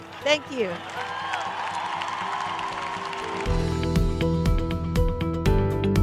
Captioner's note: cheers and applause